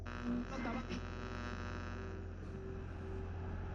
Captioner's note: radio buzzing